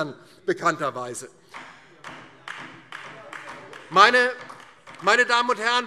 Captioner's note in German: Beifall DIE LINKE